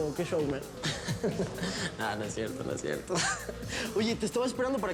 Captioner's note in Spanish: risa burlona